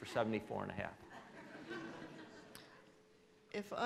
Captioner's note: laughing